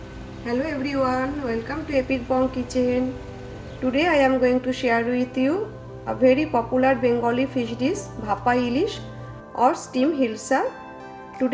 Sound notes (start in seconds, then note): 8.4 speaks in foreign language